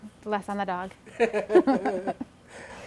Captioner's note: both laughing